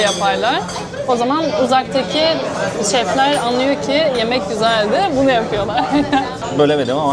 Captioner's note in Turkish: kahkaha